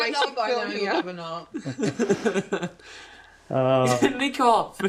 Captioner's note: laughter